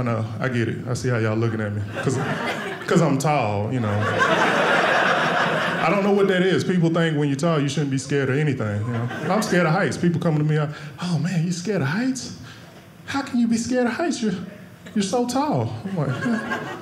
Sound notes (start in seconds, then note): 3.8 audience laughing